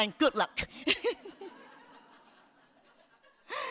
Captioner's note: laughs